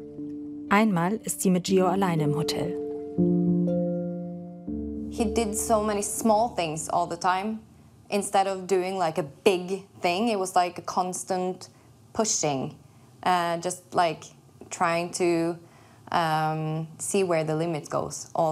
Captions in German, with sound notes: Einmal ist sie mit Geo allein im Hotel. (Langsame Musik) (englisch:)